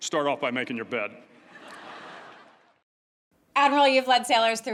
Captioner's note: laughter